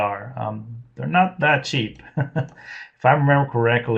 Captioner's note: laughs